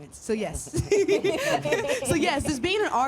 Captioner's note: laughs